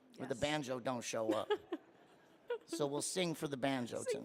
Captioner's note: mimics sobbing